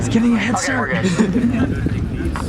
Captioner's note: laughter